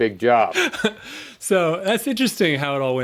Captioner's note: chuckle